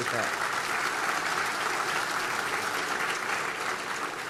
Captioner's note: applause